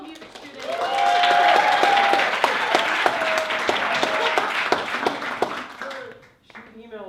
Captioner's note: applause